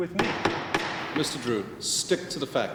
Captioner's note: gavel banging